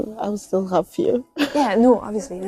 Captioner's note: laughs